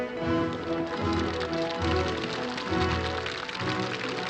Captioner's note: soldiers Applauding